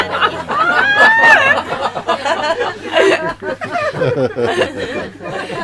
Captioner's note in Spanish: Risas